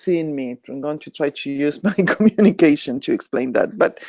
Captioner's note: chuckling